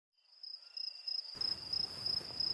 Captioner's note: crickets chirping; whispering